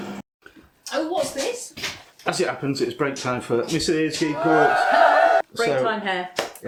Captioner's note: cheering